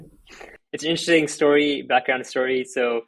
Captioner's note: laughs